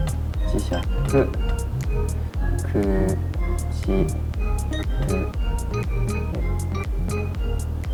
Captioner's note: whistle